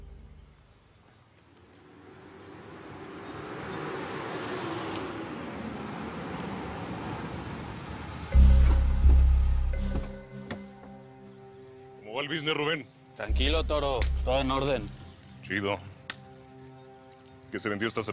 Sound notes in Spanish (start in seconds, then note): 3.5 Sonido de motor